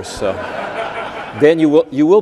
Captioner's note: audience laughing